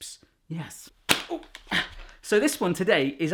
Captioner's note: clap